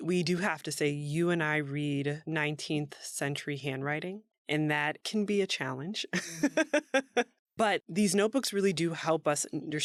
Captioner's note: laughs